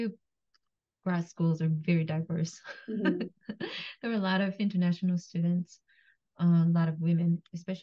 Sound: laughs

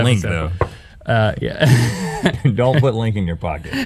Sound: laughing

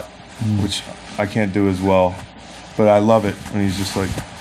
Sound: none

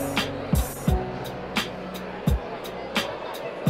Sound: crowd talking

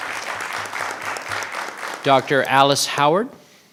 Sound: clapping

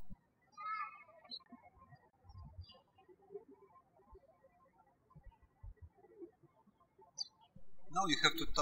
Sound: birds chirping

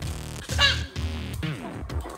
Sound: laughs

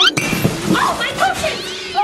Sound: glass clanking; audio whistles

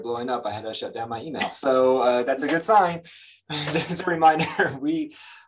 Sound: laughs

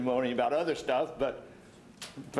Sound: stammers

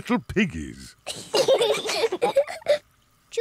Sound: both laugh

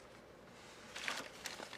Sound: none

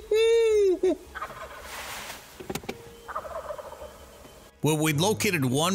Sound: imitates gobbling; turkeys imitating

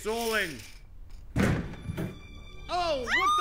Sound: door thuds

